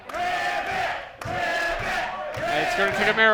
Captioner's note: crowd